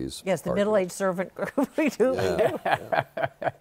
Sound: laughing; laughs

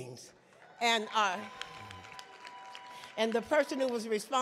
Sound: audience clapping

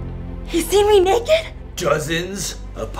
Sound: none

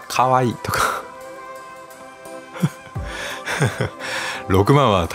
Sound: laughs

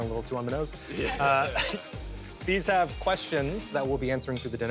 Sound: laughs

